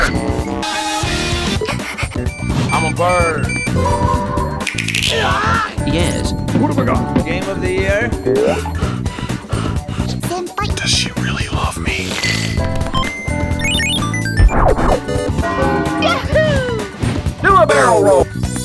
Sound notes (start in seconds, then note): 0.0 Animal Crossing SFX; 1.5 girlish panting; 2.2 Tamagotchi SFX; 3.7 PSP startup; 4.5 Nintendo Switch click; 7.5 incelish breathing; 11.8 Incelish snorting; 12.0 Kirby's Adventure SFX; 14.4 Super Metroid SFX